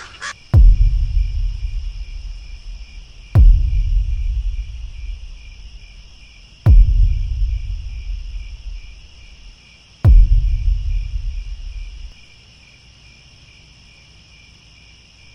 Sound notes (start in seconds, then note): 0.0 drum beat, crickets; 12.1 crickets